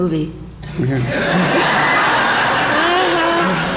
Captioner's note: laughter